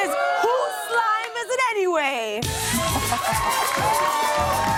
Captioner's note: cheers and applause